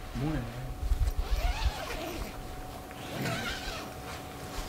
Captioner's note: tent zipping open